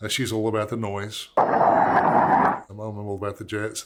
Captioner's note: roaring jet engine